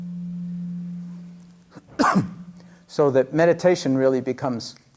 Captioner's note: coughs